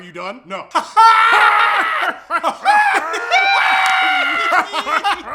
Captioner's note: combination troll laughter continues